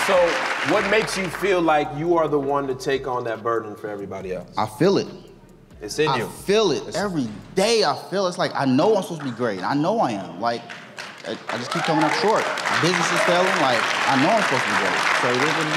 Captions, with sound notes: So what makes you feel like you are the one to take on that burden for everybody else? - I feel it - It's in you - I feel it every day I feel it's like, I know I'm supposed to be great. I know I am (audience cheers) I just keep coming up short. (audience claps) - Business is failing, I know I'm supposed to be good.